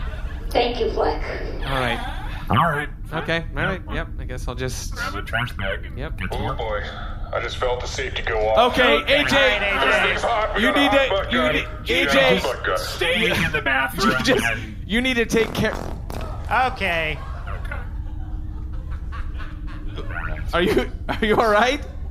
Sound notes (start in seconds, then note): 15.4 butt gun emits noise